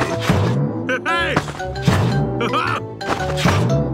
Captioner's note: laughs